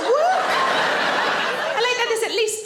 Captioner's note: audience laughing